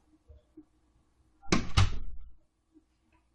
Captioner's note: door closes